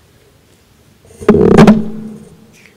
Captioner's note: mic noise